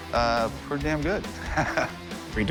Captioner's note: chuckles